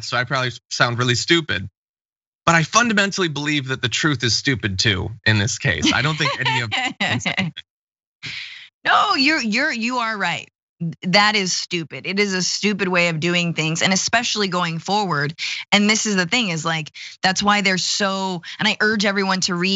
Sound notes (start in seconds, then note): 5.3 laugh